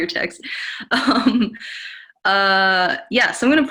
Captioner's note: giggles